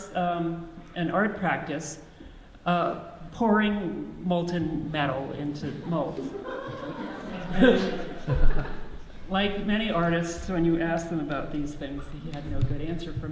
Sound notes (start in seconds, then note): 6.1 audience laughs